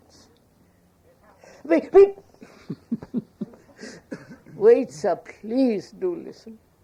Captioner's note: laughs